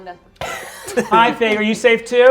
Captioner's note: laughter